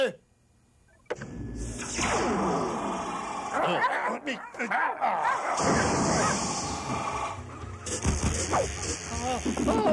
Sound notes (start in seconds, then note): 2.3 growling; 3.0 grunting